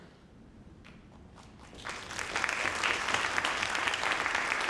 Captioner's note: audience clapping